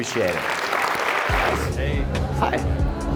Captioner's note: applause